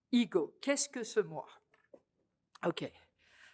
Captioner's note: french